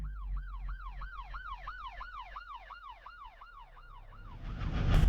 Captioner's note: siren sounds